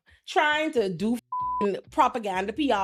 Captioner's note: beep